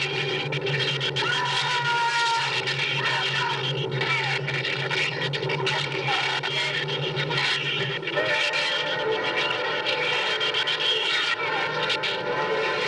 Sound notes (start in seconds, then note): 2.7 screaming